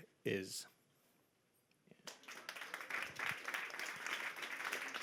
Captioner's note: applause